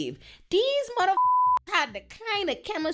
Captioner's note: beep